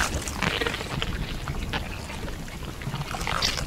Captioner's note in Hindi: क्रीचर की खाने की आवाज